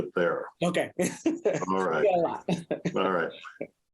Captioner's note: laughs